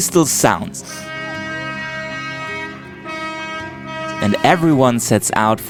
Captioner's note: boat horn